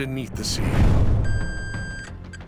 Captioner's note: metal detector beeping